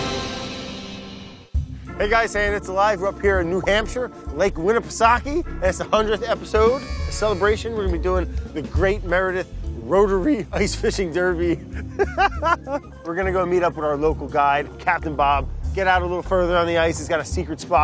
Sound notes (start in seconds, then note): 11.5 laughs